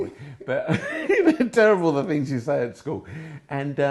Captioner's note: laughing